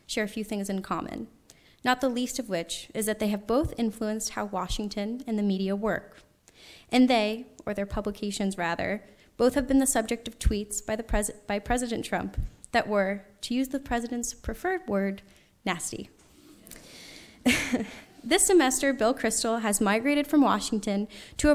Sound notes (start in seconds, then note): 11.0 stammers; 17.4 laughs